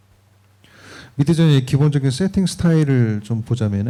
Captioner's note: speaking korean